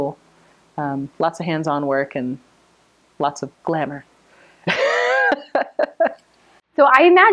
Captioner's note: laughs